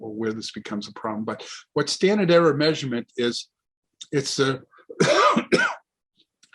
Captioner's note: coughs